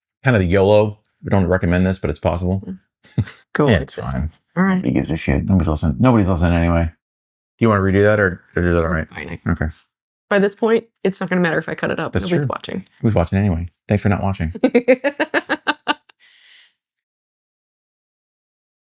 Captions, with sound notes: Kind of the YOLO we don't recommend this but it's possible Cool. It's fine. All right, he gives a shit. Nobody's awesome. Nobody's awesome anyway Do you want to redo that or do that all right? I know. Okay. By this point, it's not gonna matter if I cut it up. That's true. It's worth watching. It was worth watching anyway. Thanks for not watching. (laughing)